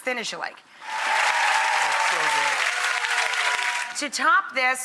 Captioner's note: crowd cheers